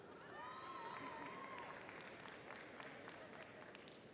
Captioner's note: audience cheering